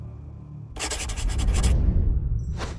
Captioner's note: scratching noises